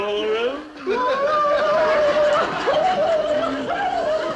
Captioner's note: men laughing